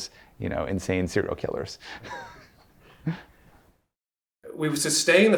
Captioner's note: laughing